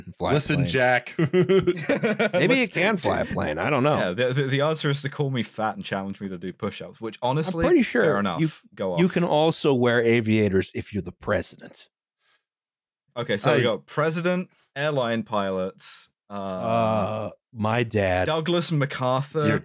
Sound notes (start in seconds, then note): 0.6 chuckles; 1.0 all laughing